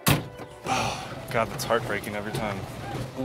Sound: sighs

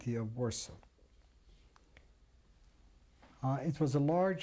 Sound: pauses for 3 seconds

